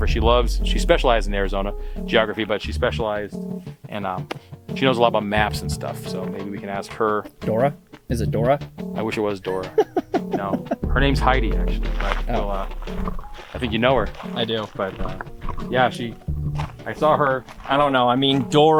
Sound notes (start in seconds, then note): 9.4 laughing